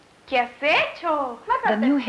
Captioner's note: speaking Spanish